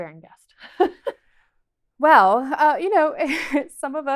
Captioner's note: chuckles